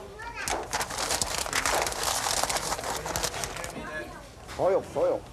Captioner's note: paper crackling